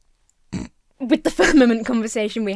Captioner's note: snorts